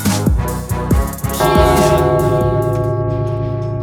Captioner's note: gong